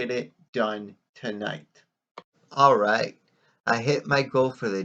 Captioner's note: click